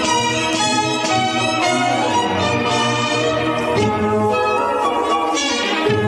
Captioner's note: none